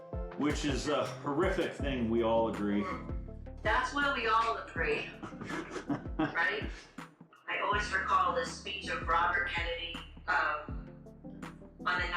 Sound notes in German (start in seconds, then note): 5.0 lacht